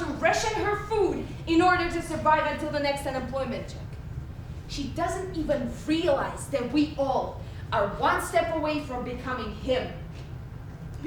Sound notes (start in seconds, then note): none